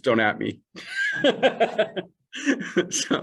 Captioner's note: laughter